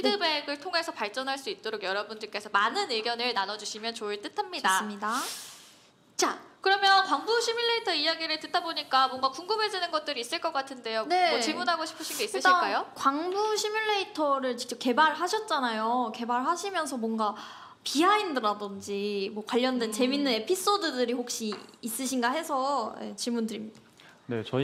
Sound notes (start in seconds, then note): none